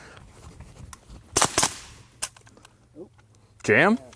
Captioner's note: gun shots